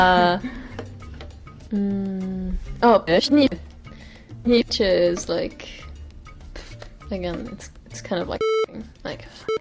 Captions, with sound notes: (speaking foreign language) Is like, it's kind of like (beep.)